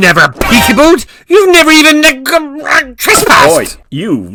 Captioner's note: stutters